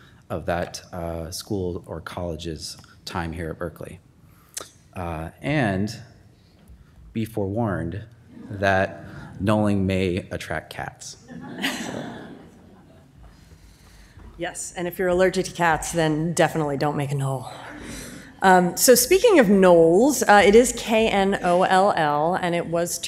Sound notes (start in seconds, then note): 11.3 audience laughs